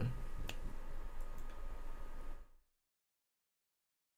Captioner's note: snapping fingers